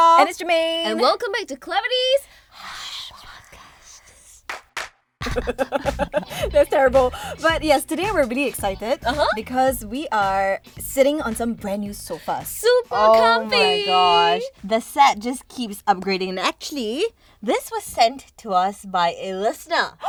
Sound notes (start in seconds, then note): 5.2 laughing